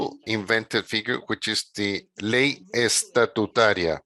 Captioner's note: speaking in a foreign language